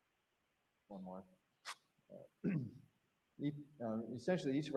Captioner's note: clears throat